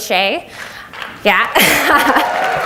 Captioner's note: audience applauds